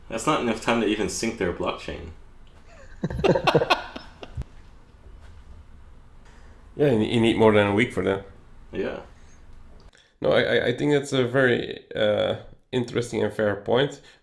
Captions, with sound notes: That's not enough time to even sync their Blockchain. [Laughs] Yeah, you need more than a week for that. No, I think it's a very interesting and fair point.